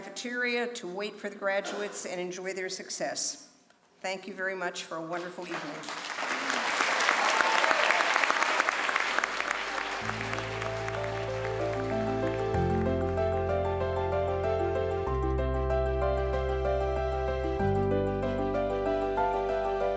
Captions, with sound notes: to wait for the graduates and enjoy their success. Thank you very much for a wonderful evening. (crowd applauds) (bright piano music)